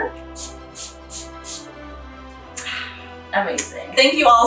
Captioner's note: toner spritzing